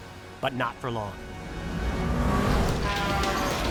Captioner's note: cars rev; car whooshes; car horns honk